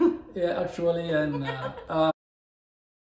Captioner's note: laughs